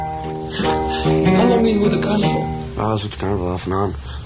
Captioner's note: voiceover